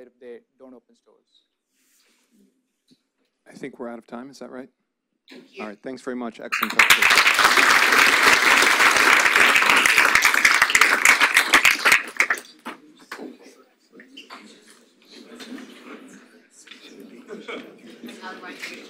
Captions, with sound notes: if they don't open stores. - I think we're out of time. Is that right? Thanks very much. Excellent pitch. (audience applauds) (audience chattering)